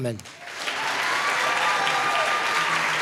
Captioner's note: applause